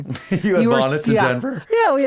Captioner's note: chuckles